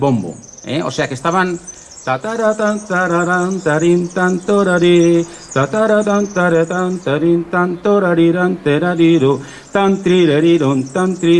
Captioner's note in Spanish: tarareo